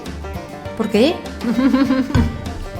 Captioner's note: laughs